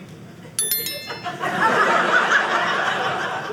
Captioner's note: audience laughing